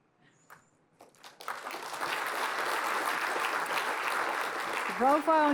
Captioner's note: applause